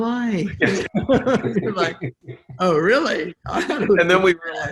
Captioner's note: laughing